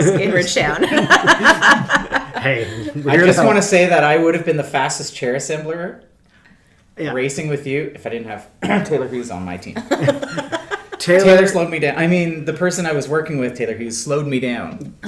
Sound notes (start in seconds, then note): 0.0 laughs; 8.6 coughs; 9.8 laughs